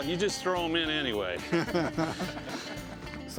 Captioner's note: laughter